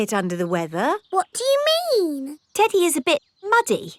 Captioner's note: in normal voice